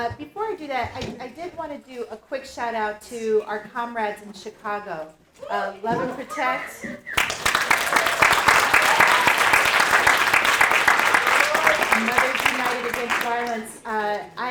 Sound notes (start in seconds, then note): 7.0 audience applauding